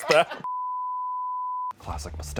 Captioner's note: beep